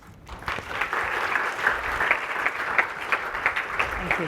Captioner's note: applause